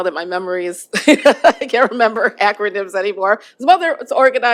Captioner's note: laughter